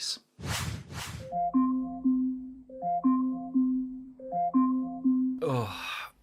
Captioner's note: alarm sounding